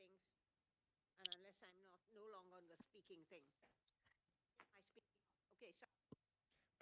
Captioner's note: speaking French